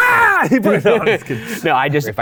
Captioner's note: laughs